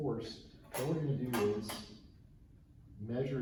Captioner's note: item clanks